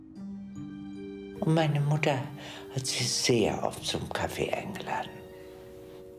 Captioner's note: speaking in foreign language